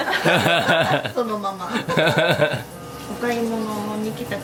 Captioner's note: laugh